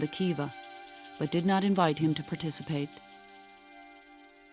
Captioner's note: snakes rattling